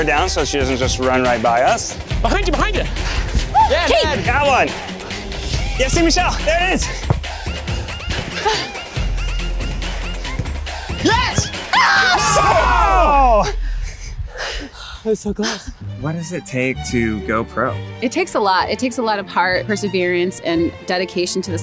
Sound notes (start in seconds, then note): 3.5 loud exclaiming; 7.2 panting; 11.0 group yells